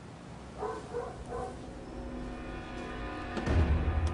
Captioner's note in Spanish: Ladridos